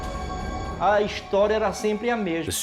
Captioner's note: speaking Portuguese